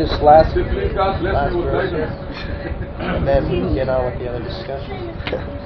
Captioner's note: gülüyor